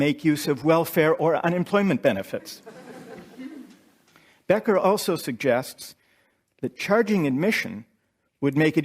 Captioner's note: laughter